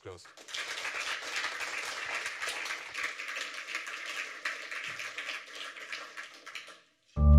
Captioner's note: applause